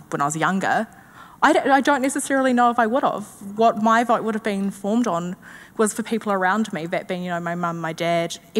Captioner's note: none